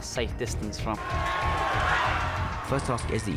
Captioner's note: crowd cheers